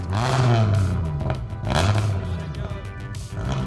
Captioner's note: car revving